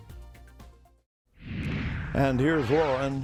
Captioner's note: air whooshing